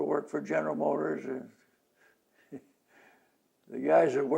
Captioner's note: laughs